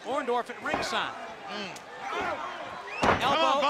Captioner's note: crowd chatter